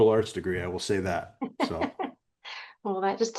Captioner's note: giggling